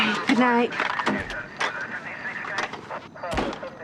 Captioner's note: chattering on police radio